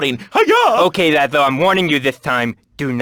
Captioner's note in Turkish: peltekçe konuşur